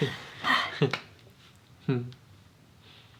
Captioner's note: uncomfortable laughter